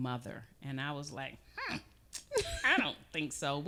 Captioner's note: laughing